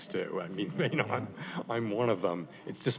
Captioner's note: laughter